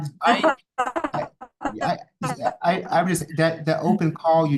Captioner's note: feedback drowns out